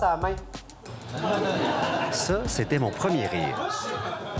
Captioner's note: snicker